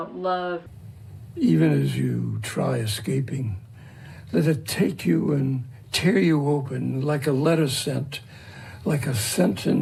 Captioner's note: old man reciting his poem